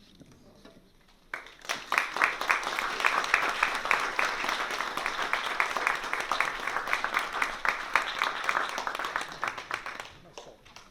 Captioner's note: applause